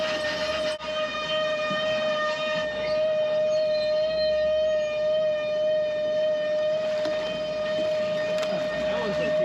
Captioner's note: fish splashing; horn blowing; fish splashing